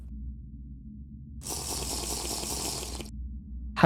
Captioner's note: sipping